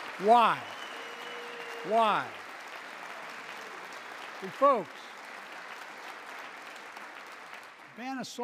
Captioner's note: applause